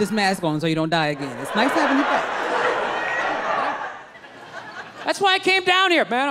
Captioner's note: crowd laughs